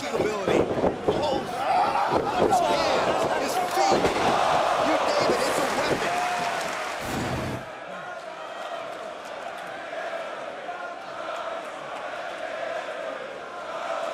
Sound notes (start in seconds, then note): 2.8 crowd cheering; 3.6 crowd chatter